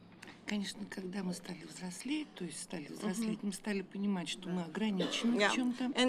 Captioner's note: speaking russian